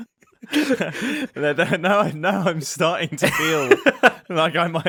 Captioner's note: laughs